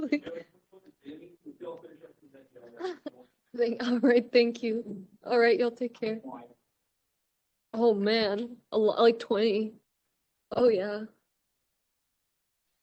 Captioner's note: laughter